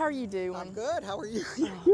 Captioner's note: laughs